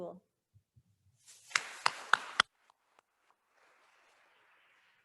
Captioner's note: attendees applauding